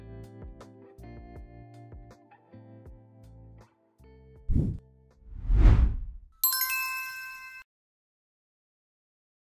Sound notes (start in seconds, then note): 0.0 quiet soft music; 5.3 logo whooshing; 6.4 bell chiming